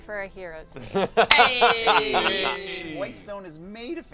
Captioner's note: laughs